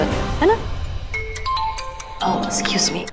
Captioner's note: Phone ringing